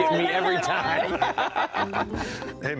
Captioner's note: all laughing